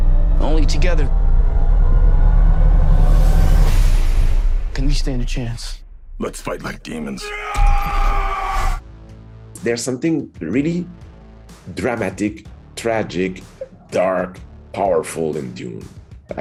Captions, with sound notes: Only together (suspenseful music) can we stand a chance. - Let's fight like demons. (man shouting) - There's something really dramatic, tragic, dark, powerful in Dune.